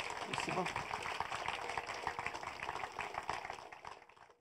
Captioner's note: applause